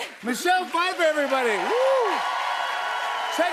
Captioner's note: cheers and applause